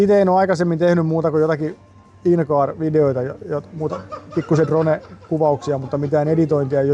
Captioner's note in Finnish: naurua